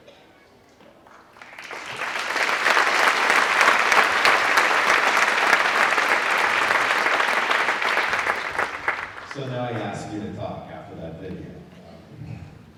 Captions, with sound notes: (applause) So now he asks me to talk after that video.